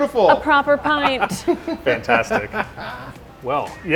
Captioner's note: laughing